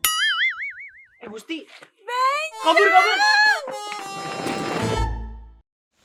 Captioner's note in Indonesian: berteriak kaget